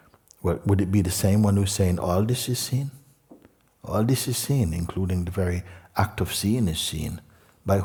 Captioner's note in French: none